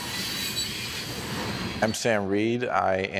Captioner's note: train screeching